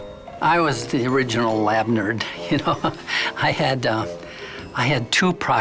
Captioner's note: chuckles